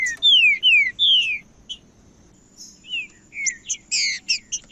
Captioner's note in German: trinca ferro cantando